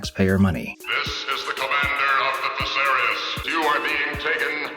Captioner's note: Barack Obama, alien voice